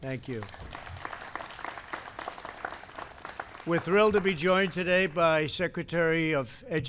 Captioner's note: applause